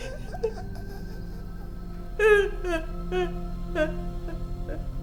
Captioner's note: dramatic music; Caroline crying